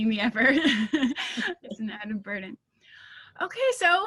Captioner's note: laughing